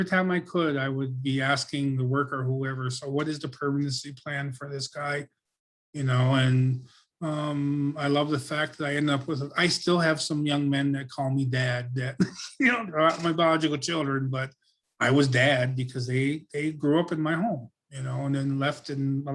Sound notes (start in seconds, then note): 11.9 laughs